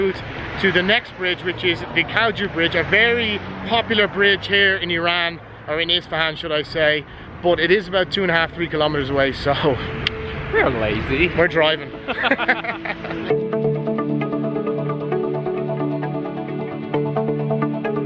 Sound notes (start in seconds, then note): 11.9 both laugh; 13.4 soft music